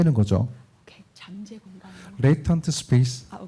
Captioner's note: speaking korean